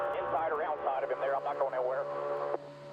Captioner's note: radio